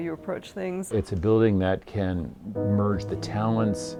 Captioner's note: voiceover